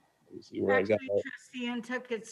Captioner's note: faintly speaking